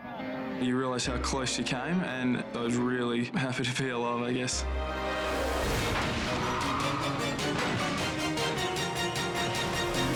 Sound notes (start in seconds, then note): 6.2 tires screeching